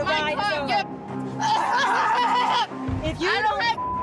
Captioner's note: screams